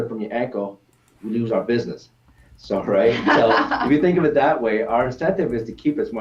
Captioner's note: laughs